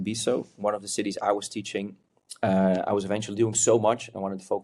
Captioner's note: lips smack